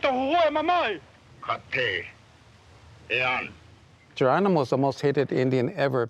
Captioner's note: Geronimo speaking Native language